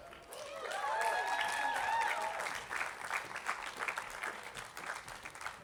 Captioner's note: attendees applauding